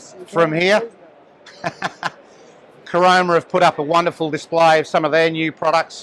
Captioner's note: laughs